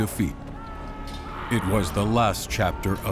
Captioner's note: screams